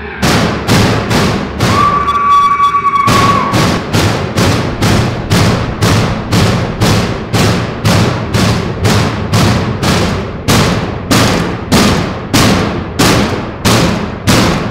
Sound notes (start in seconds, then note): 0.1 shrieking; 3.0 banging continues